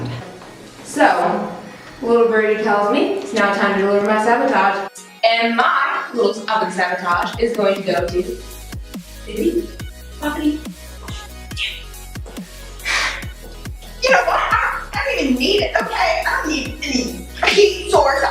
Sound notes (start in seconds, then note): 10.6 whispers; 12.8 sigh laugh